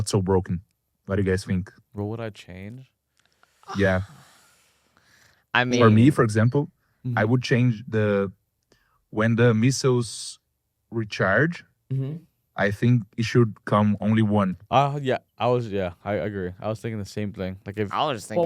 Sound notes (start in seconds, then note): 3.6 sighs